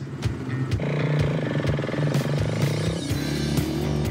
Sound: engine revs

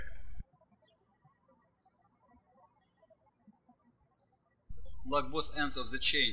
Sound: birds chirping

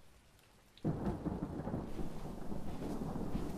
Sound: thunder rumbles

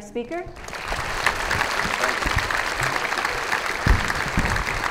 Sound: audience applauds

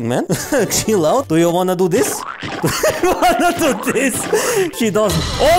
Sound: laughs

